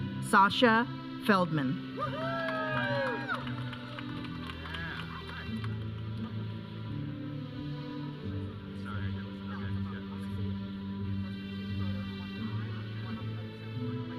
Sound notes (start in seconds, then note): 2.0 audience cheering; 5.4 processional music; 9.1 audience chattering; 9.1 processional music